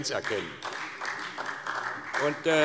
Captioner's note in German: Beifall SPD